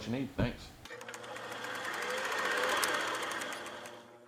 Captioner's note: film reel spooling